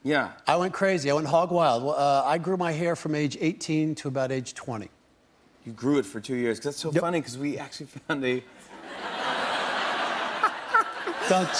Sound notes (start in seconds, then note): 8.6 laughter